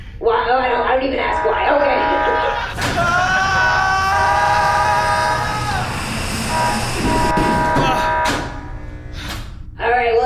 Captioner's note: sound of hatch opening, depressurization; Pleck yells; hatch closes